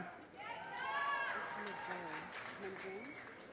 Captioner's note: audience cheers and applause